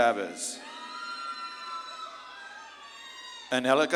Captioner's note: audience claps and cheers